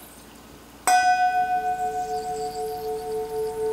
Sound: chimes

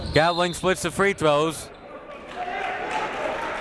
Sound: whistle

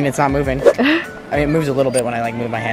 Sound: chuckles

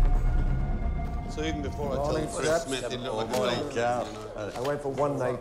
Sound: editors chattering

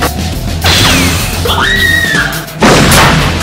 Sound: screams

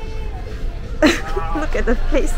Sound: me laughing

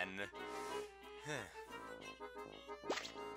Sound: sigh

